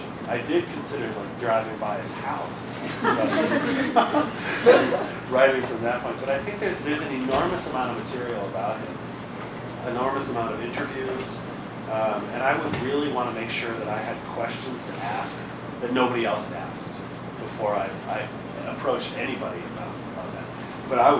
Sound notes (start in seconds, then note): 2.8 laughter